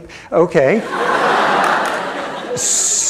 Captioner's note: laughter